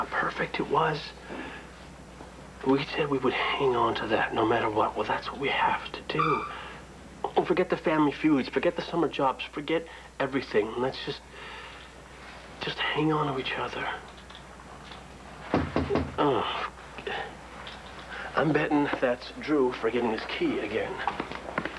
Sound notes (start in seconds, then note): 12.8 knock on door